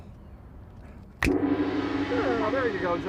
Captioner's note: finger snaps; gong